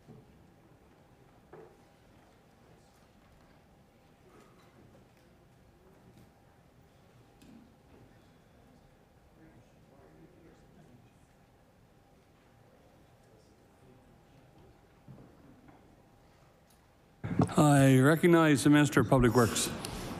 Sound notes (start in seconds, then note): none